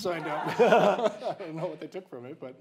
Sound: laughing

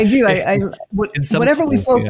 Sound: laughing

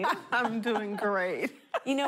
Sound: laughing

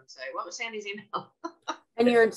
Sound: chuckles

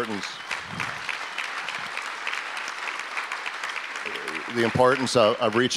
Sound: audience applause

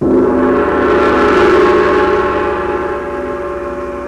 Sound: gong rings

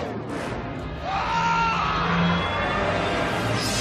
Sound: screaming

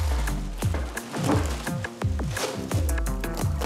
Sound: rustling

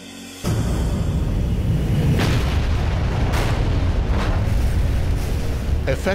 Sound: sound of explosion

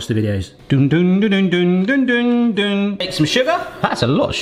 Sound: humming

